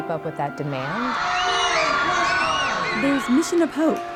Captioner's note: cheering